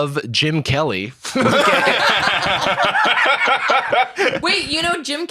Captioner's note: all laughing